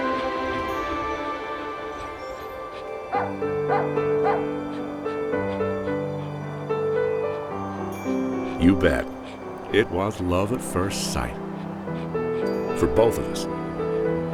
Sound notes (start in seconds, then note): 3.6 puppy whines and barks; 4.3 gentle music